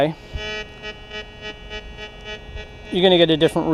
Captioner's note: detector beeps